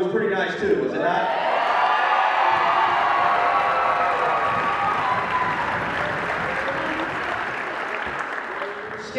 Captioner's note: cheering